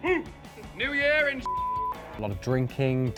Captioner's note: beep